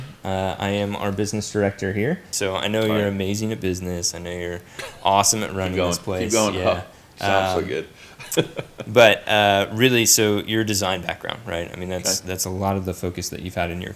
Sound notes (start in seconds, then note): 7.2 laughs